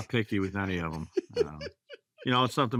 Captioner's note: laughs